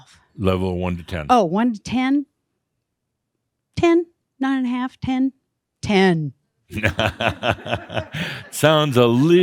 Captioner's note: Adamus chuckles